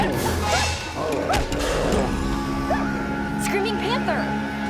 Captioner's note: intense music; Panther yells